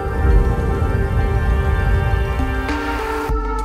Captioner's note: air whooshing